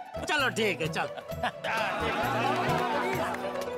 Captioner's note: cheering